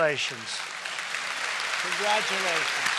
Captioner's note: applause